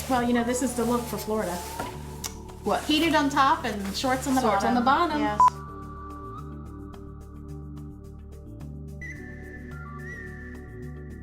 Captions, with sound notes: - Well, you know, this is the look for Florida. - What. - Heated on top and shorts on the bottom. - Shorts on the bottom. - Yes. (beeps)